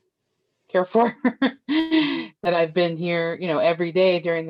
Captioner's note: laughter